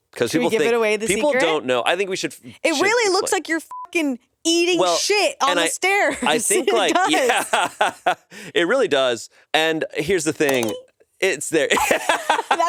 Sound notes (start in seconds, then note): 3.7 beep; 7.7 everyone laughs; 12.0 laughs